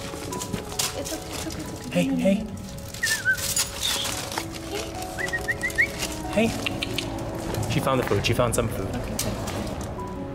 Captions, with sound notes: It's okay, it's okay, it's okay. One more minute. Hey, hey. [Whistle] Hey. [Whistles] Hey. She found the food, she found some food. Okay good, alright.